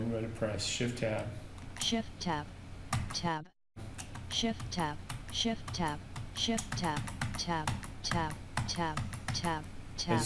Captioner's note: sound of screenreader